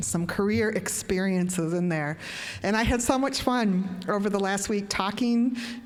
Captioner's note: none